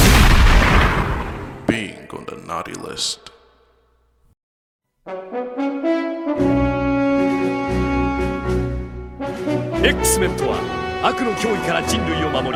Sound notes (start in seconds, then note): 0.0 gunshot